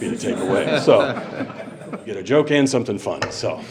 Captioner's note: board laughing